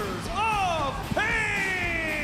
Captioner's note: crowd cheering